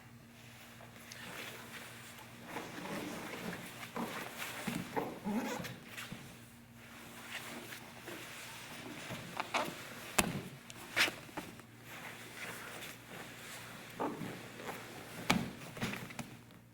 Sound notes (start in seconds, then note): 2.8 soft shuffling; 10.1 soft thudding